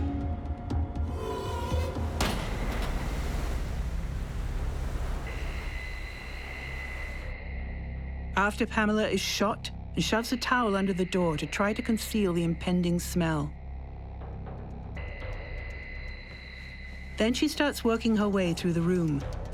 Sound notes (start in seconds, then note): 1.1 waves crashing; 1.4 gentle foreboding music